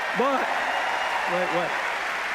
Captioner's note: cheers, applause